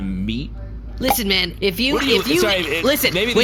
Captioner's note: uncorking something and splorching it around